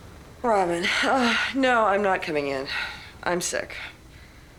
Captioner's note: sighs